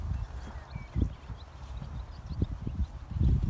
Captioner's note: wind blowing